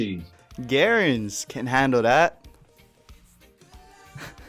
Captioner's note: chuckles